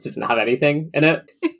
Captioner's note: laughs